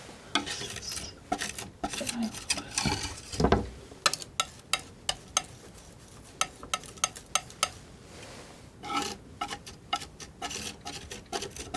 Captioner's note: tapping